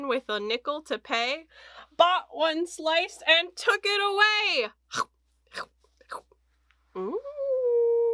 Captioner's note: eating noise